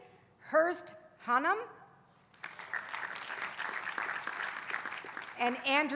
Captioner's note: applause